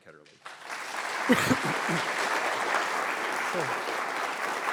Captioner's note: applause